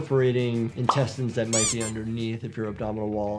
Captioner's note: rubber squeaking